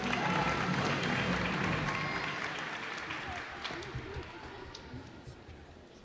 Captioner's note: cheers and applause